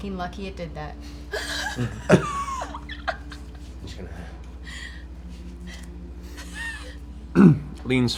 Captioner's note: laughter